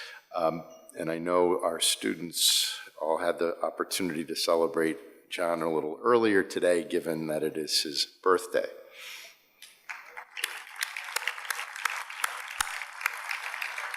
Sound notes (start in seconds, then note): 9.8 audience applauds